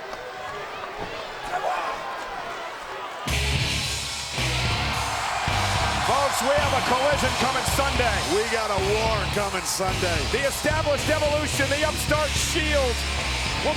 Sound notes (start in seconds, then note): 3.3 dramatic music; 5.1 audience cheers